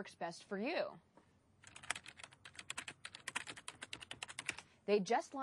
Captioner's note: typing on keyboard